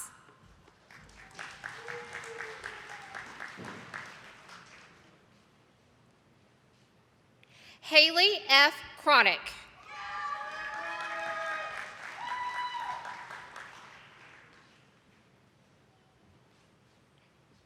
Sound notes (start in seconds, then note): 0.6 attendees clapping; 9.9 attendees applauding and clapping